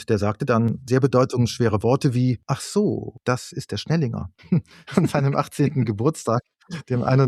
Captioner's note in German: gelächter